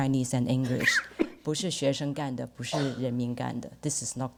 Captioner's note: speaks Chinese